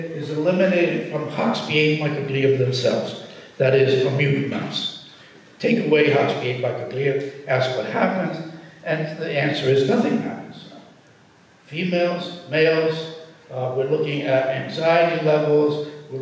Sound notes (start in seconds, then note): none